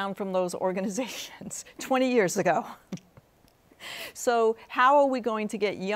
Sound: chuckles

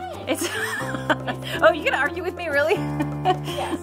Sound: laughing

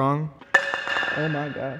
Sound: footstool clatters

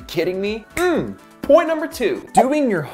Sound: snaps

